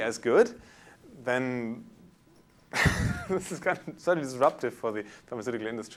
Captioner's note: chuckles